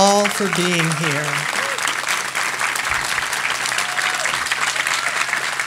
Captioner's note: audience applauding